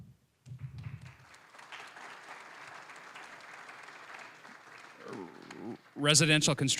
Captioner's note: applause